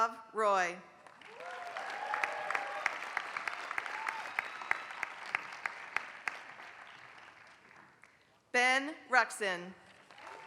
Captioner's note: applause; applause